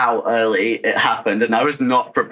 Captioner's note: laughing